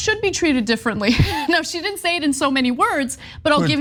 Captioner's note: laugh